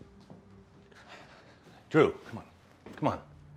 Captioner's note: Drew sighs